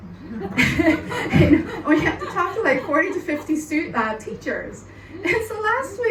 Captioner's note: laughing